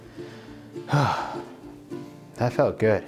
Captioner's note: deep Breathe